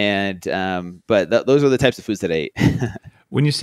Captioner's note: laughs